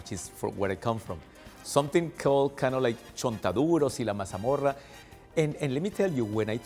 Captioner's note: Spanish